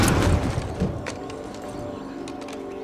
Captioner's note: gunfire, grunting; gunfire stops